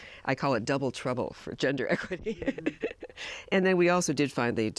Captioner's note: laughs